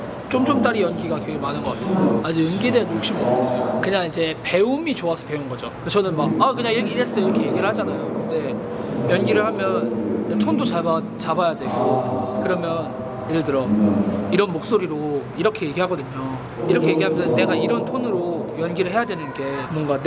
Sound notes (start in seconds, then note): 14.2 in acting tone